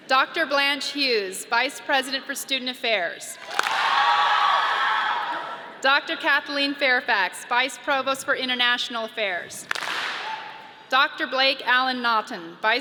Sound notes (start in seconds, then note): 3.4 audience claps and cheers; 9.6 audience claps and cheers